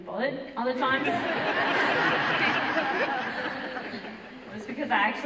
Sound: audience laughter

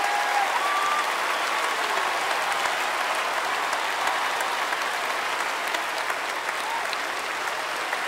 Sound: audience applause

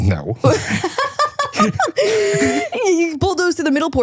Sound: both laughing

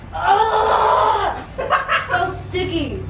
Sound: child grunting

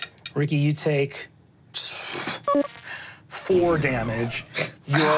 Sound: scoffs

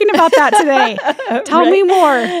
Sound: laughs

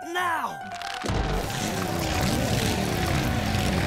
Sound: engines revving

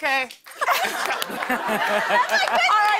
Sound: laughter

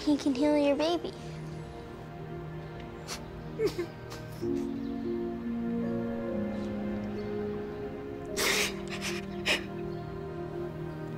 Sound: crying

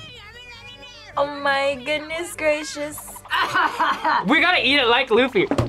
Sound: laughs

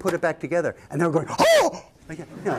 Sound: laughter

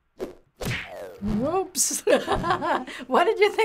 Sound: laughs

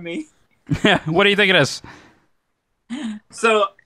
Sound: chuckle

